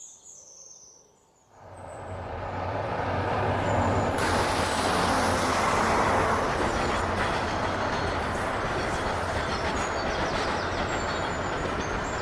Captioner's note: train rushing past